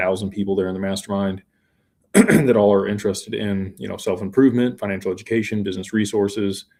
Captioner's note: clears throat